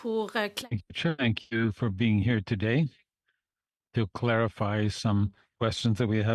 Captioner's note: speaking French